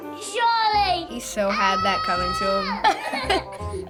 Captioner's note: Charlie's brother yells; laughs